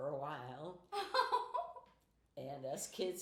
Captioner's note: laughing